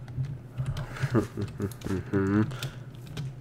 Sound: chuckles in a low tone

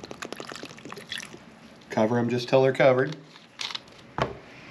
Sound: gluging

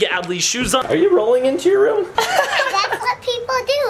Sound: laughs

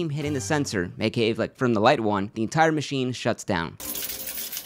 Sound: coins rattling

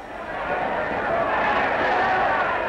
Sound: cheering

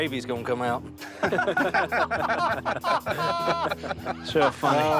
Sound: laughter

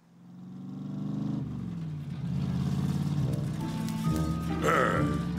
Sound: low engine rumble; grunts

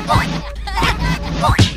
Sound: boing

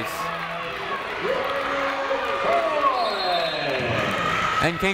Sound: people cheering in the crowd

